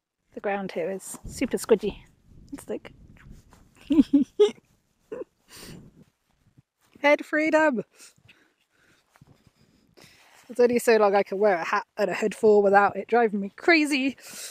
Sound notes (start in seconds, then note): 3.8 chuckles